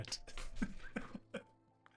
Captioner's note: laughs